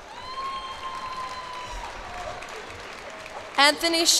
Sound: cheers and applause

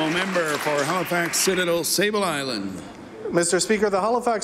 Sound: applause

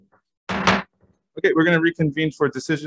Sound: gavel banging

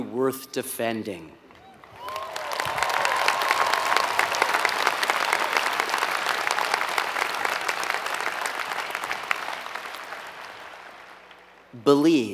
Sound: applause

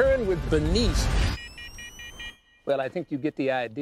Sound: beeping

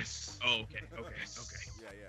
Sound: laugh

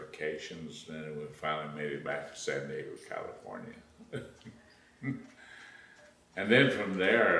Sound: laughs

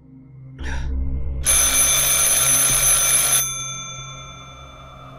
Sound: phone rings

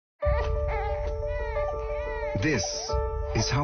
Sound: baby crying

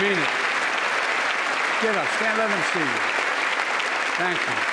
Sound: applause

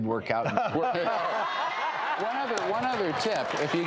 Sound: laughing

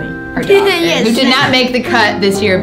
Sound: laughs

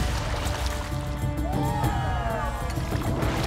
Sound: cheering

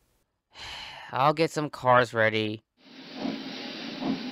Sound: sad sigh

